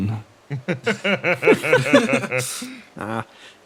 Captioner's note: laughs